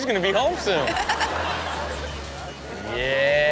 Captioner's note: laughs